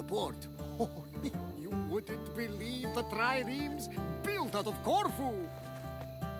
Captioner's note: laughs